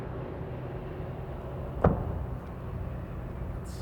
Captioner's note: explosion